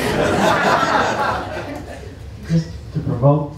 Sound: laughter

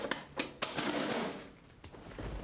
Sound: drawer closes; thundering

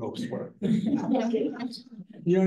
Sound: laughter

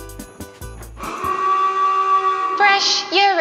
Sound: alarm ringing

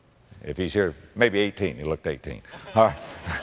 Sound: audience laughter

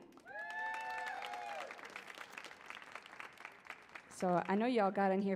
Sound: audience cheers

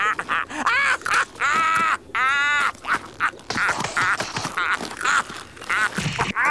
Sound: laughing

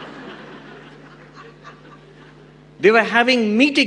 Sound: audience laughs

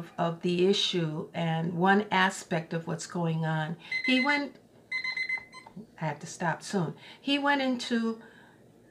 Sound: timer goes off

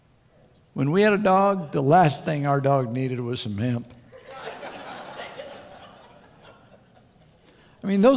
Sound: crowd Laughter

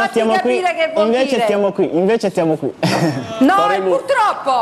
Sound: chuckles

